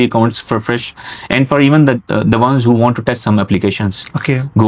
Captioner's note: nasal sound